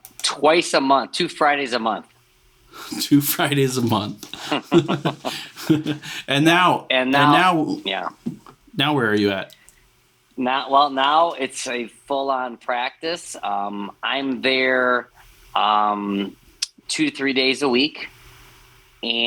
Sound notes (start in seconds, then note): 4.2 laughs